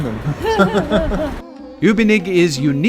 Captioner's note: laughing